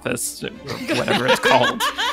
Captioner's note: people laughing